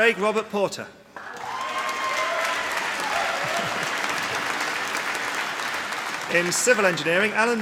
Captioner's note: applause